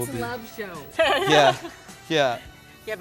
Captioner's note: laughing